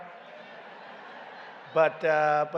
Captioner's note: laughter